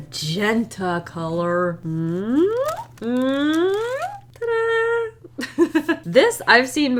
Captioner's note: giggles